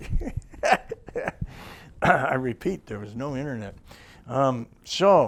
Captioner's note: laughs